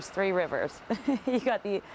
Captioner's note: chuckling